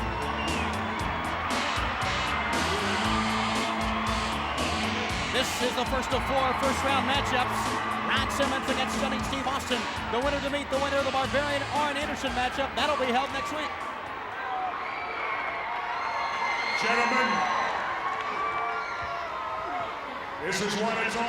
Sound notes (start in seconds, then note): 0.6 audience cheers; 14.9 audience cheers